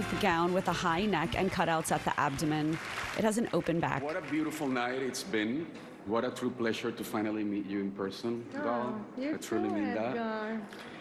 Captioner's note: applause